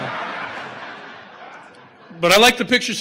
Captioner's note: audience laughter